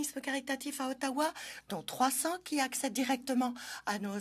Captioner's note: speaking French